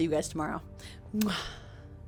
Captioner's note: kiss